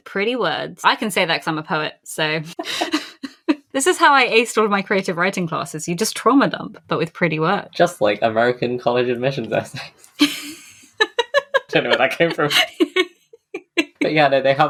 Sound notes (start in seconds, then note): 2.5 laughs; 10.1 laughs